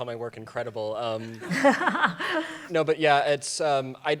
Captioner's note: laughter